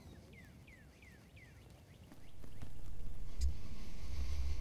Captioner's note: turkey calling